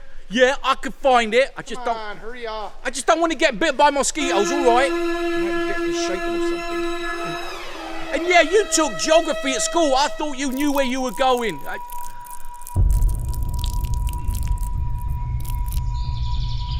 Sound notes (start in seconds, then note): 5.5 tense music; 12.9 urine flowing; 14.4 dark music